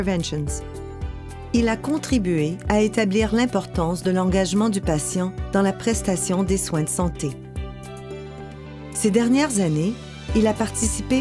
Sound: speaking french

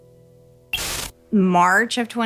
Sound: static buzzing

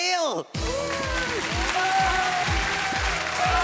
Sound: applauding

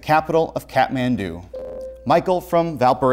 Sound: buzzer

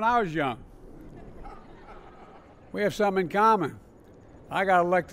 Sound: laughter

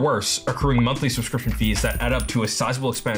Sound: coins jingling

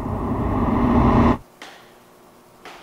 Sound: tap

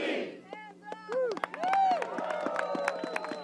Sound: applause

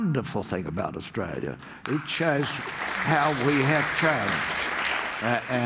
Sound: audience applauds

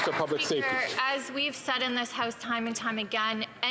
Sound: some Applause

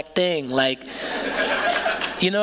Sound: laughter

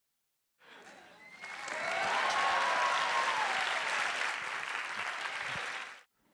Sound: cheers; applause

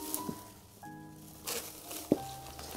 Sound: packing Paper Rustling

